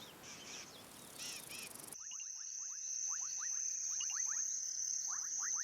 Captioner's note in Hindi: चहचहाहट